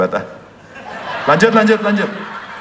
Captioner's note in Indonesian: tertawa